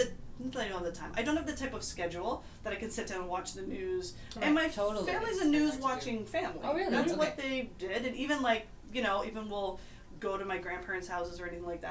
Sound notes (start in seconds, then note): none